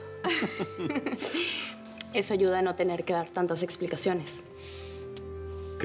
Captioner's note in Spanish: Risas